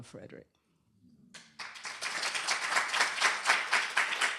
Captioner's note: applause